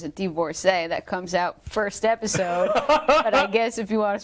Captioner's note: laughing